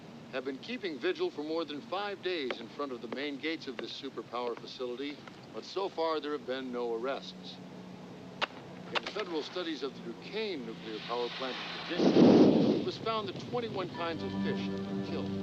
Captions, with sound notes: have been keeping vigil for more than five days in front of the main gate of the super power facility. But so far there have been no arrests. In federal studies of the Duquesne Nuclear Power Plant... [flame bursting] ...it was found that twenty-one kinds of fish...